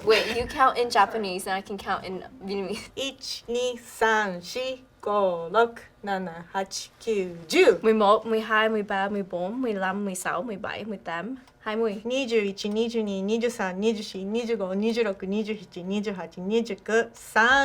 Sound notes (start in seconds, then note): 3.0 counts in Japanese; 7.8 counts in Vietnamese; 12.1 counts in Japanese